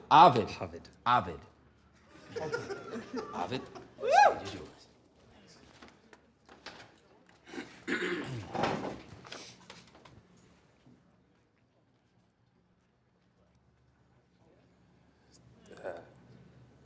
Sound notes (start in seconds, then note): 2.0 laughter